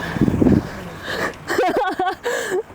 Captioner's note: laughs